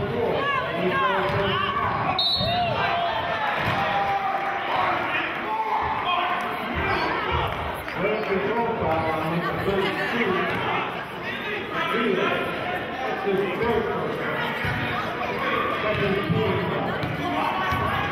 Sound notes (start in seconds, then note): 2.2 whistling; 5.6 yelling